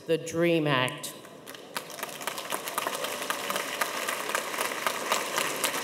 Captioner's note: audience applauding